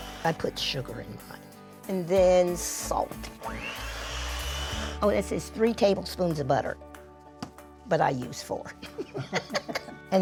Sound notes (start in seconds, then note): 3.7 mixer whirs; 8.8 both laugh